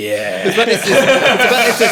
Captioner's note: all laughing